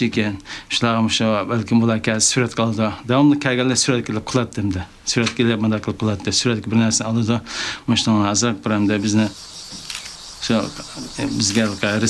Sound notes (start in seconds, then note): 9.6 camera shutters clicking